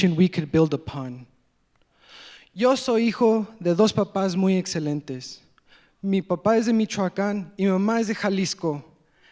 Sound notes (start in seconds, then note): 2.6 speaking in foreign language